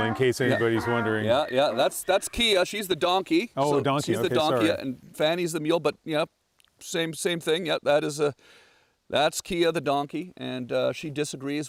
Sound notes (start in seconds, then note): 1.8 mule crying